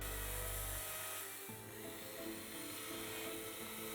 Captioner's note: chainsaw whirring